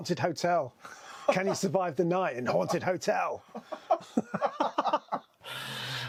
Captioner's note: laughs